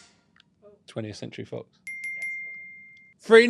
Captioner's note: bell chimes